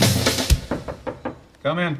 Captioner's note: knocking on door